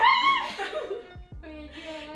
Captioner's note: laughs